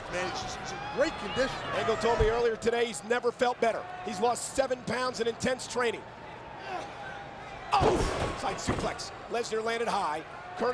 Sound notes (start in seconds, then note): 7.8 bodies thud